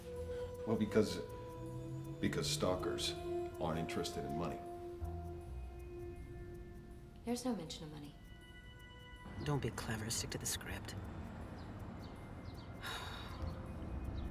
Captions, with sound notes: - Well, because stalkers aren't interested in money. - There's no mention of money. - Don't be clever, stick to the script. (sighs)